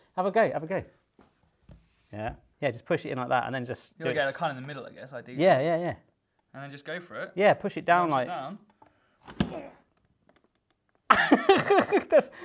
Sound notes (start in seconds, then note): 9.4 grunts; 11.1 laughing